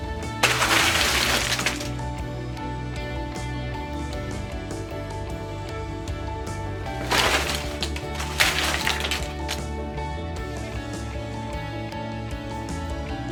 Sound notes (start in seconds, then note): 0.4 simultaneous crashing and rustling; 6.9 crunch and fluttering clatter